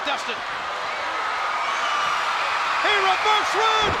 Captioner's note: crowd cheering